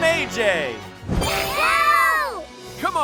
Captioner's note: screaming